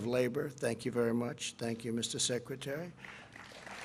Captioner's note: applause